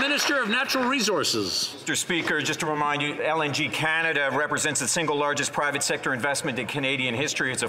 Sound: some Applause

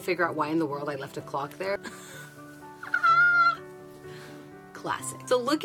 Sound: laughs

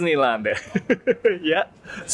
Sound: laughs

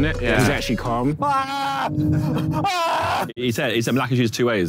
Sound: Harry screaming

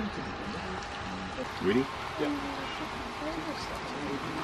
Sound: chatting to each other

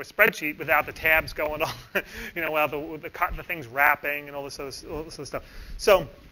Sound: laughs

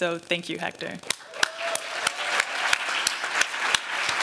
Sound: applause

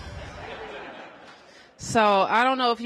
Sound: laughter

